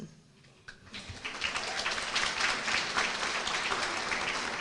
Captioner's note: applause